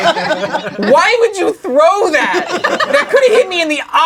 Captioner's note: crowd laughing